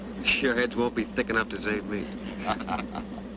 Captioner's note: laughing